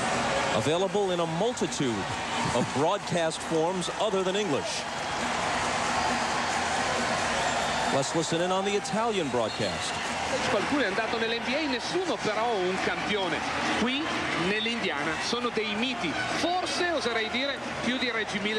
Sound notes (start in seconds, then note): 10.2 man speaking italian